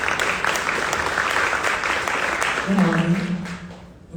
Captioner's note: audience applauding